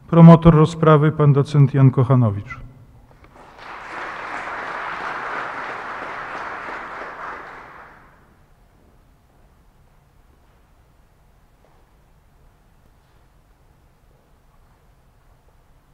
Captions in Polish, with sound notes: Promotor rozprawy Pan doc. Jan Kochanowicz. [oklaski]